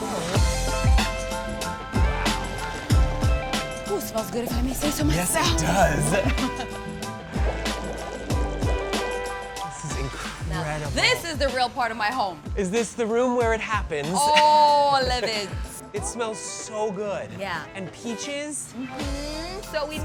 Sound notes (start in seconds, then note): 0.3 upbeat music; 6.1 laughs; 7.4 boiling water rumbles